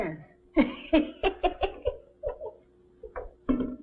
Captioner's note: tahama chuckles